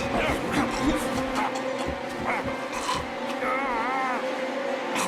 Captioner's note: dramatic orchestral music; Micheal groaning